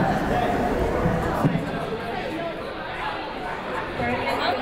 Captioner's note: crowd murmuring